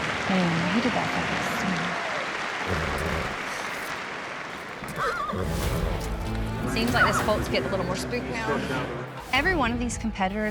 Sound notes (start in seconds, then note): 0.0 applause; 4.8 horse neighs